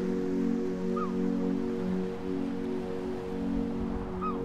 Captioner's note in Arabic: نعيق طيور النورس